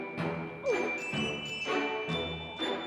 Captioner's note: gulp!